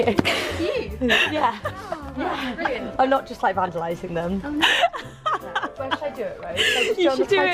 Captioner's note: chesty laughs